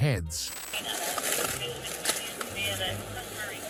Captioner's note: radio chatter